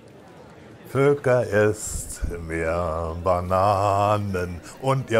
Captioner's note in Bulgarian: Аудио на немски